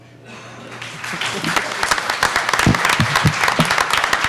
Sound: applauding

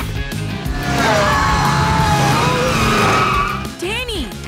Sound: screaming

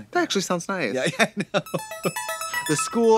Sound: upbeat music; giggles

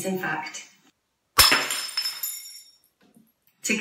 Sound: glass smashes

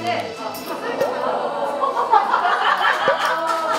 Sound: A flurry of cheers

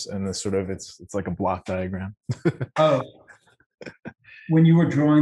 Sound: laughs

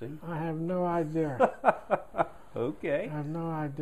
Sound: laughter

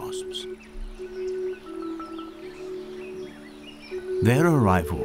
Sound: background chimes

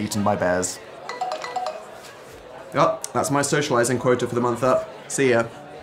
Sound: phone alarm sounds

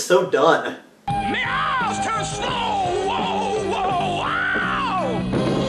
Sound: screaming

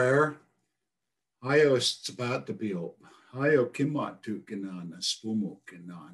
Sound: speaks in foreign language

